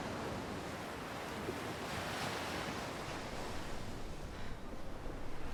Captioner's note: waves continue crashing